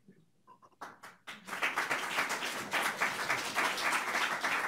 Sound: audience applauds

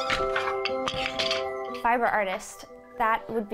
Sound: loom squeaks; shuttle rattles

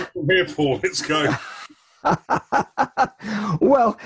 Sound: laughs

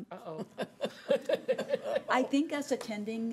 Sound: laughing

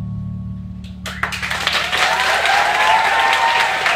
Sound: cheering & clapping

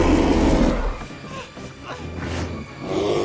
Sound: roaring; straining

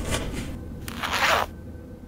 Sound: fly unzips

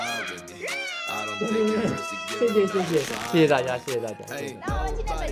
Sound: ha ha ha ha ha ha; haha

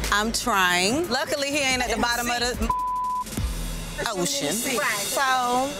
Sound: beep

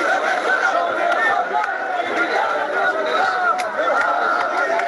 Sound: chatter

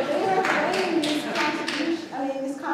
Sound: clapping

